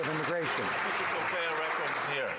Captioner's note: some Applause